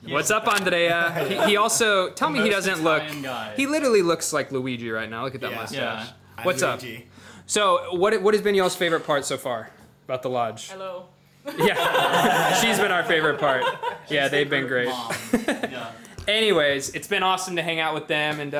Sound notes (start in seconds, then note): 11.5 everyone laughing; 14.9 laughing